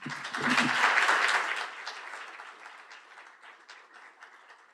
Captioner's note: applause